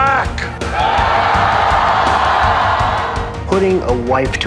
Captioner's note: large applause